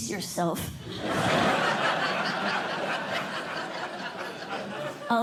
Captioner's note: laughter